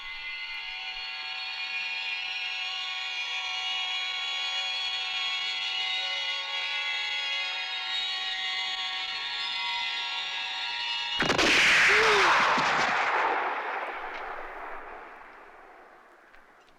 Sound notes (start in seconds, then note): 11.8 grunts